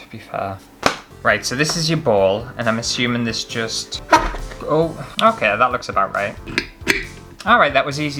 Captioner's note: squeak